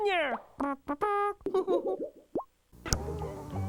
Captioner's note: giggles